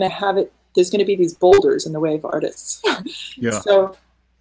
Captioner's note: laughing